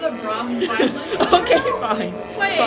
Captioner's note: laughter